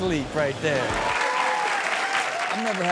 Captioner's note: audience cheers